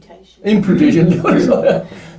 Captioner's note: laughs